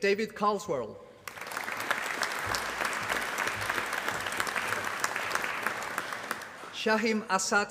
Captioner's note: applause